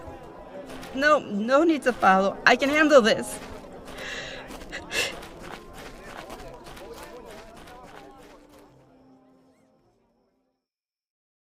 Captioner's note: footsteps retreat